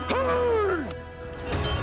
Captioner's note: yells